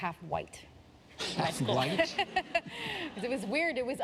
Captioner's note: laughter